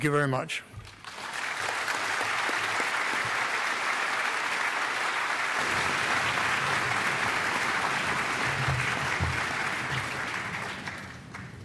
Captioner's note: applause